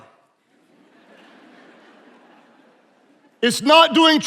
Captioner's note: attendees laughing